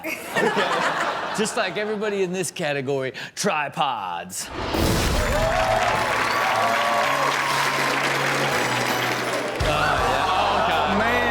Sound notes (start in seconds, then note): 0.0 Chanel and audience laugh; 5.1 audience cheers